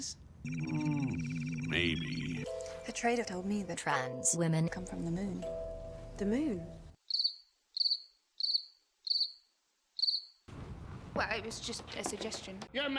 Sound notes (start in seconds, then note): 7.0 cricket chirping